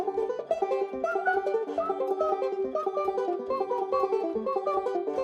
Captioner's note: whistling